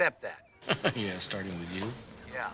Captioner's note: landline rings